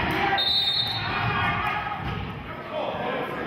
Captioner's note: whistling